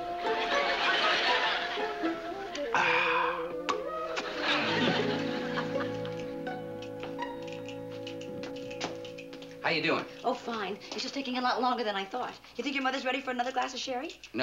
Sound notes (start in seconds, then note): 2.6 sighs